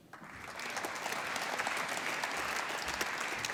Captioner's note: applause